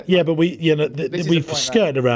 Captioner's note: stammering